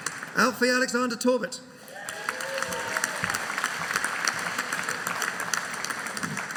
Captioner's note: audience applauding